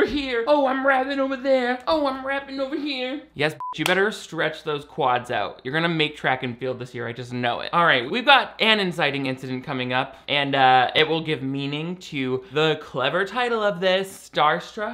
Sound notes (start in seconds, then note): 3.5 beep